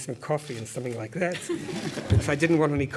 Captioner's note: laugh